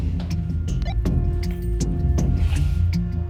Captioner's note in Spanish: Bip